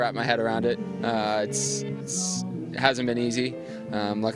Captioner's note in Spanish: hablan inglés